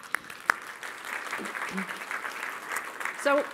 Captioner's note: applause